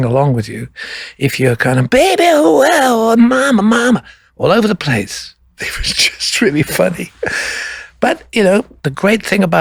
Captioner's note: laughs